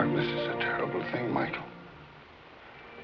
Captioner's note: none